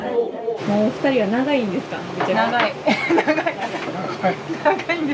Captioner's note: laughs